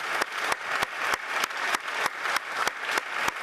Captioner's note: applause